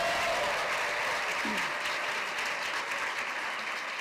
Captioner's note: cheers and applause